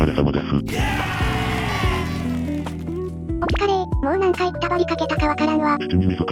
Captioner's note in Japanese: 叫び声